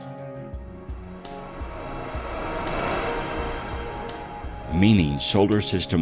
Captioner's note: air whooshing